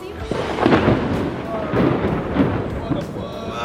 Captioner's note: thunder